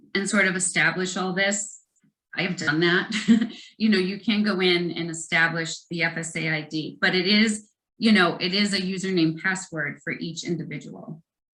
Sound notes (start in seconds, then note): 3.1 chuckles